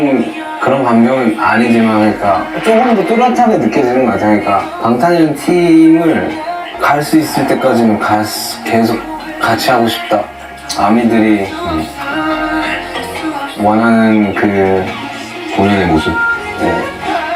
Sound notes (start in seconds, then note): none